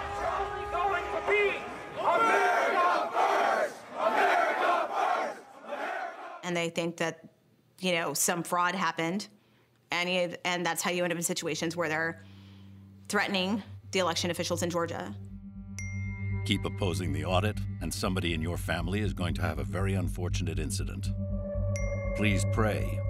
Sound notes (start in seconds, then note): 0.0 chanting; 15.8 chime